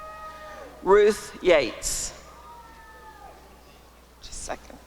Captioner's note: applause and cheering